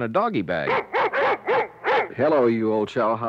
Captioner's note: dogs barking